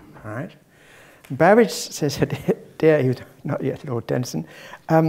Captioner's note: laugh